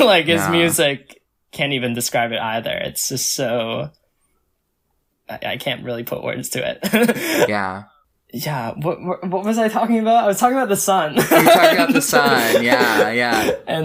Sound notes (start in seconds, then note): 0.3 laughs; 7.0 laughs; 11.2 laughs